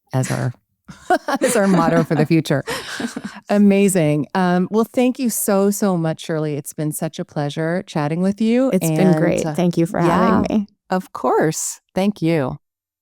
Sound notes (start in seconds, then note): 0.9 chuckles